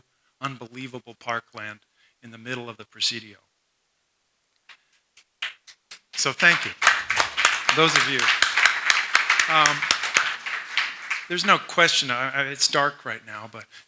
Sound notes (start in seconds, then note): 6.0 applause